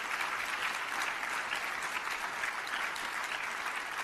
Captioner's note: applause